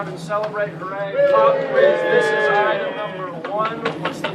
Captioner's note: crowd cheering